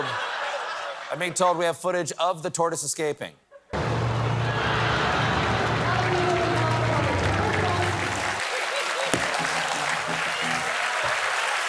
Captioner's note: applause